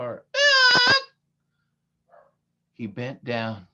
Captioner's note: screaming like a parrot